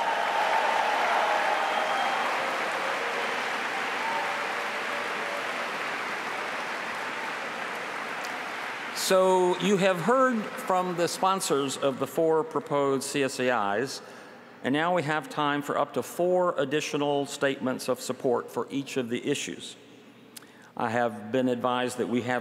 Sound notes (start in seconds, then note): 2.1 applause